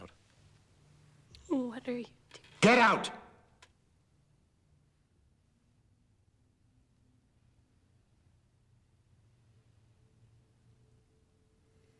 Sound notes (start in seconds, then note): none